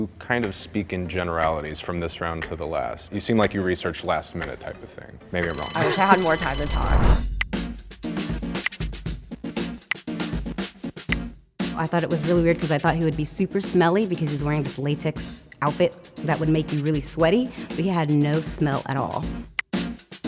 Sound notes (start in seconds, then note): 5.4 bell ringing; 8.5 upbeat music